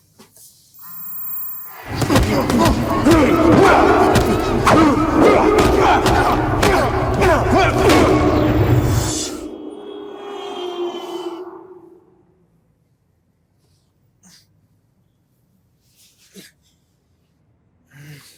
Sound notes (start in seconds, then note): 1.8 blows thudding; 1.8 men grunting; 10.3 car engine zooming; 14.7 grunting softly